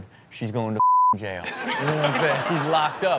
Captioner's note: beep